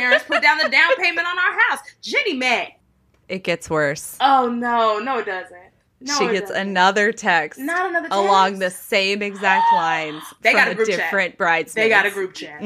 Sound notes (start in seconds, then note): 10.5 gasps